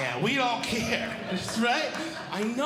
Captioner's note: audience Laughing